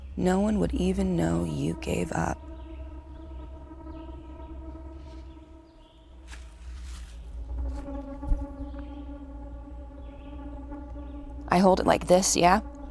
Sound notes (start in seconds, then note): 2.8 eerie music continues; 6.2 rifle scraping